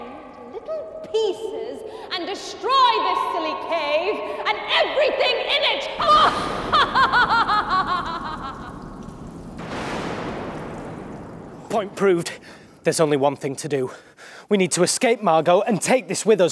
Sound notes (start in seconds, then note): 5.9 evil laughing; 9.2 dramatic music